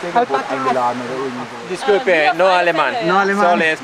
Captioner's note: in Spanish